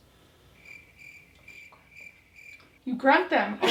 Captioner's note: crickets chirping; laughing